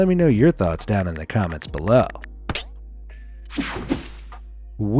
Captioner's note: page swishing; phone clicking; page whooshing